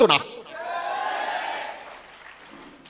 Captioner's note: clapping